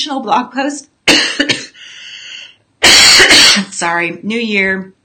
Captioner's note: coughing